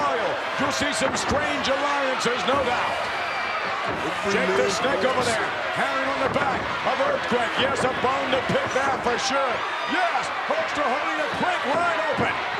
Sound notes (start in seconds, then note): 3.1 crowd cheer